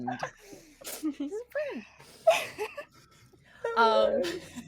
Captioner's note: everyone laughs